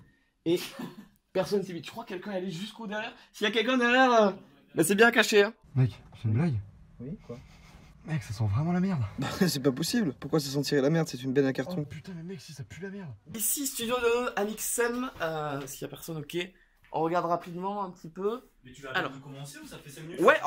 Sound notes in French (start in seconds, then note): 9.3 gloussement